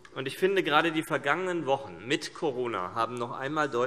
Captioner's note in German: none